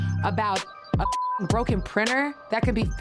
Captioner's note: beeps